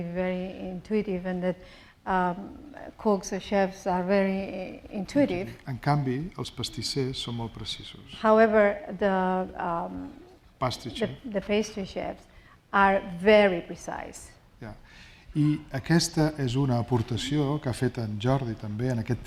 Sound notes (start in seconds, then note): 6.2 speaking spanish; 16.6 speaking spanish